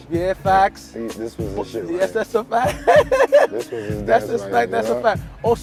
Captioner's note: laughing